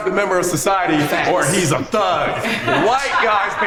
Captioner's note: group laughs